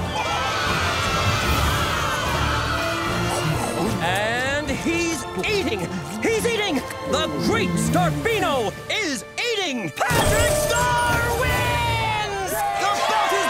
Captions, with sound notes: [cheering] And he's eating. He's eating! The Great Starbino is eating! Patrick Star wins!